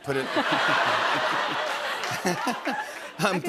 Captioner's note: laughter